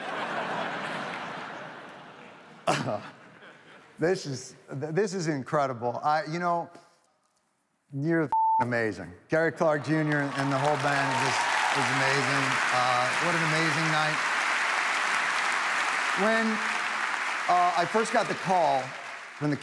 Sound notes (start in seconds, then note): 0.0 audience laughs; 2.9 chuckles; 12.1 audience applauding